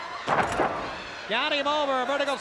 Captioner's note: steamboat thuds